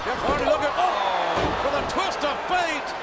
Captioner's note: audience groans